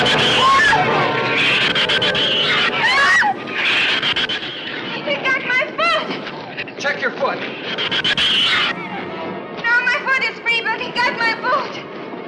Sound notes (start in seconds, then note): 0.0 Ann screams